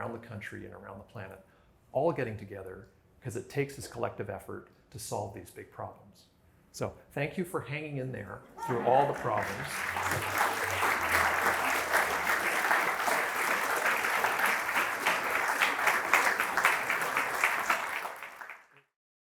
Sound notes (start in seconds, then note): 8.6 laughter; 15.1 applause